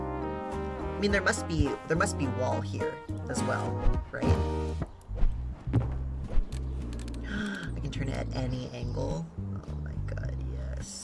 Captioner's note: gasps